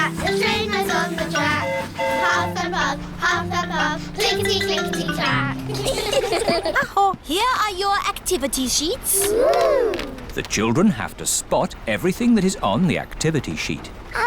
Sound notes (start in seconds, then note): 5.6 all giggle